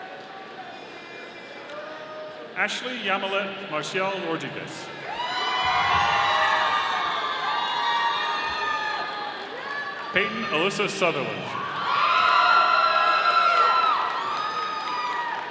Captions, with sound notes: Ashley Yamilet Marcial-Rodriguez. (audience applauding) Payton Alyssa Southerland. (audience cheering)